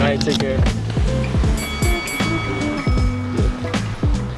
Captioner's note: bell ringing